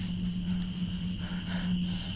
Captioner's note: gasping